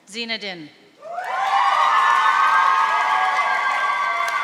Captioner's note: audience cheering